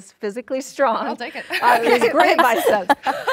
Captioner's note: laughs